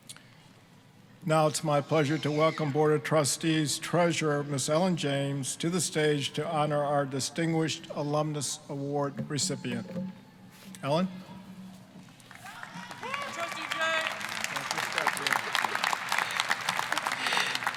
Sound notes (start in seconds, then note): 12.2 applause, cheering; 15.4 applause